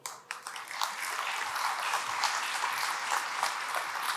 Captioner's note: audience claps